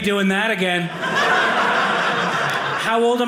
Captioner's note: audience laughing